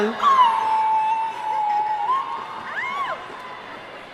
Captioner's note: howling